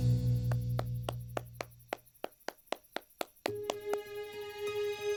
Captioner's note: applauds